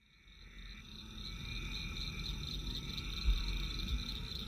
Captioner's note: frogs, insects, night sounds